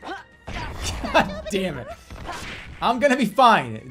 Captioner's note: chuckling